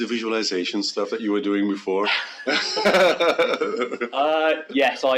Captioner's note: laughs